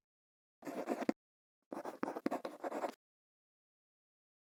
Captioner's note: quill scratching